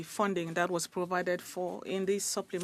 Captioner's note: speaking French